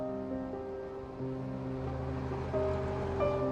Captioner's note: bus pulls away